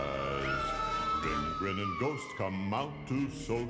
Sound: scream

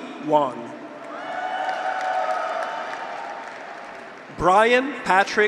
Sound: graduates cheer; audience applauds

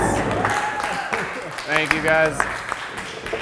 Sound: cheering in background

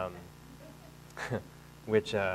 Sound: chuckles

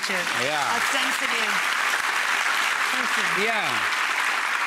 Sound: audience claps

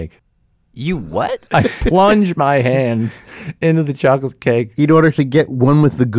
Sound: laughs

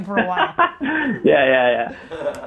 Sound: laughing

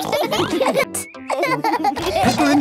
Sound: laughing

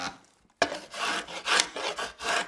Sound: faster scratching

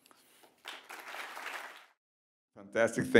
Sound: audience clapping

